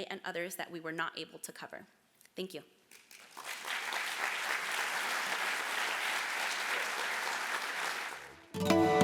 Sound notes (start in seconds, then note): 2.9 applause